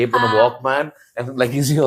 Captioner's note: laughs